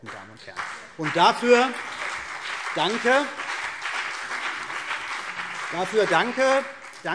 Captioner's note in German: Beifall CDU und BÜNDNIS 90/DIE GRÜNEN